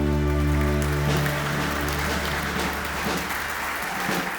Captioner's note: clapping